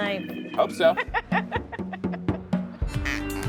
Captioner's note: laughs